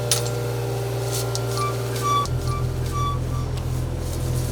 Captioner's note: engine humming